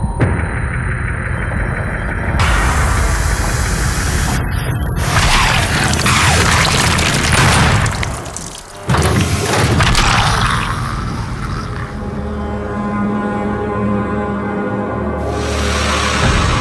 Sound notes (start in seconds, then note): 5.1 demons screeching, squelching; 11.9 ominous violin tones